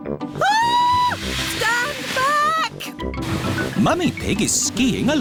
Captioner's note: shrieks